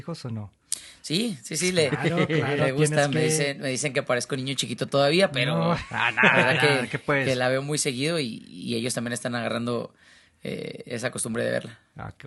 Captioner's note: laughs